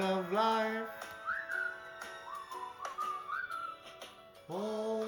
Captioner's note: whhhhhiiiiiiiiiiiiiiiiiissstttlleeee!!!!!